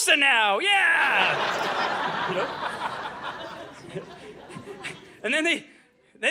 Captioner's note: audience laughing